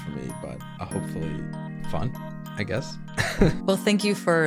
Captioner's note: laughs